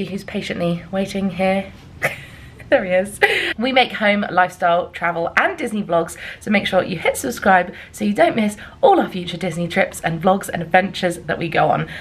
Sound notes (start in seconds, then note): 1.5 laughing